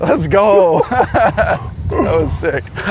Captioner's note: laughing